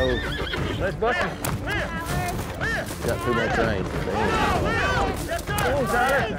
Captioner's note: shouting, cheers